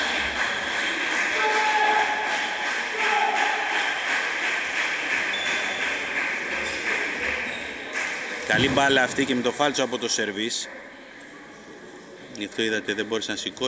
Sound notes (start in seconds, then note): 1.6 applause